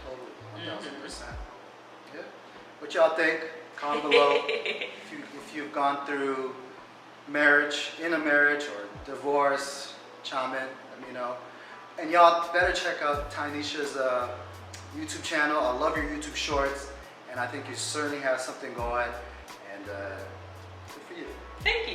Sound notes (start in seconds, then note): 3.8 laughs